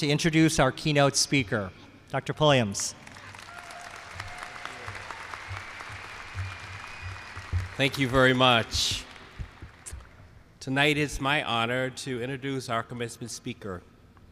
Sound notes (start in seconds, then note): 3.0 applause